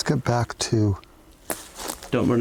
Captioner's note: rustles